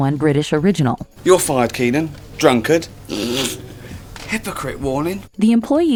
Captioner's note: laughs